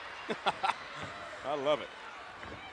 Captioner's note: laughs